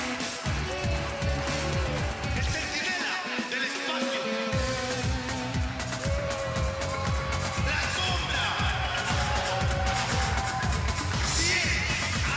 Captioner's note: cheers and boos